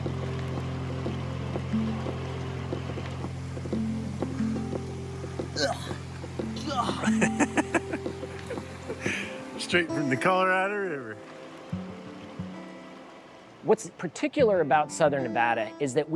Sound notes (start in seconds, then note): 1.0 laughter